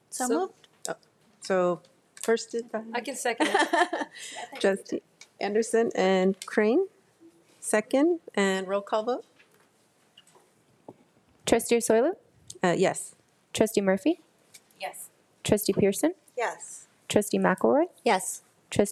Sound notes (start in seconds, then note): 3.4 laughing